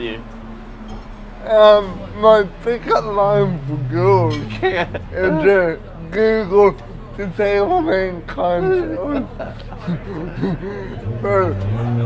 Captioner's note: laughs